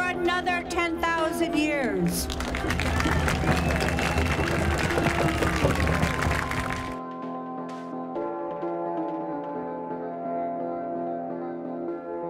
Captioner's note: applause